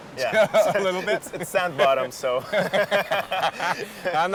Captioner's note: laughter